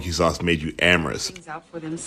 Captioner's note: soundbite of tv show, "the cosby show"